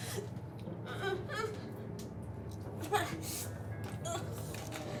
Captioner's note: Heather crying